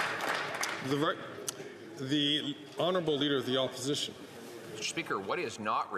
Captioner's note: some Applause